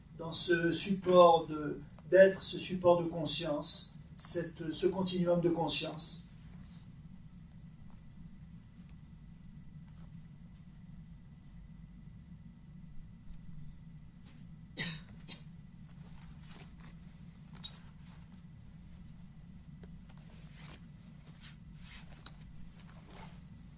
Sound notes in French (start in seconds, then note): 9.2 long silence